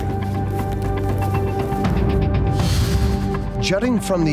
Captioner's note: footsteps crunching; dramatic music